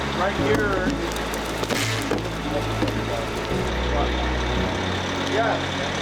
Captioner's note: engine revving; woods thudding